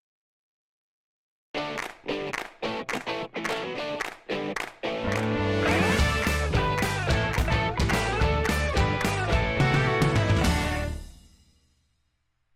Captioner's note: claps